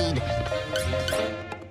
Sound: wink wonk

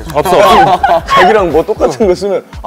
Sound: laugh

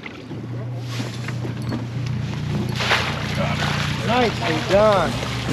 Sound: fish splasing

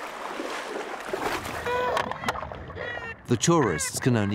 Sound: cries

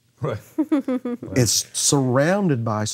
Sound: laughing

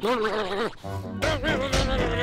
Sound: grumbling

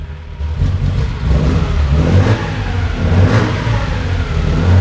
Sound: engine revs

